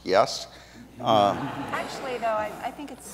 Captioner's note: audience laughs